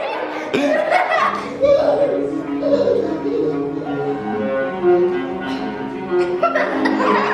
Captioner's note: kids laughing; classical music